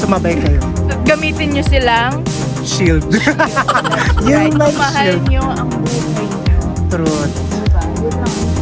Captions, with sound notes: Go along Use them as Shield [Laughing SFX] [Laughing] Human shield. If you love your life True